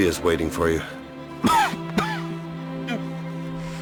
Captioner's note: coughs